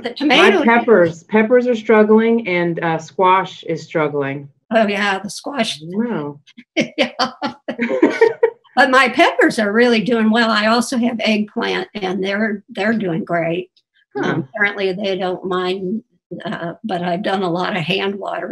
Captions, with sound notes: - MY PEPPERS ARE STRUGGLING AND SQUASH IS STRUGGLING. - OH, YEAH, THE SQUASH. - I DON'T KNOW. (LAUGHING) - BUT MY PEPPERS ARE REALLY DOING WELL. I ALSO HAVE EGGPLANT, AND THEY'RE DOING GREAT. - HUH. - APPARENTLY THEY DON'T MIND, BUT I'VE DONE A LOT OF HAND WATERING, TOO,